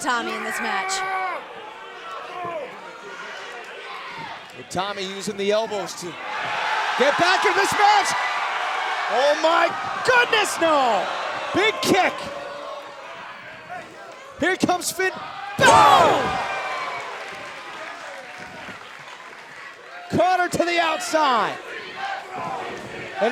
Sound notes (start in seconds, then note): 8.6 cheers and applause